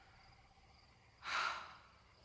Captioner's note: sighs